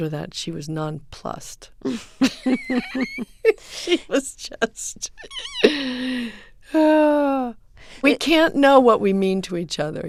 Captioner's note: soundbite of laughter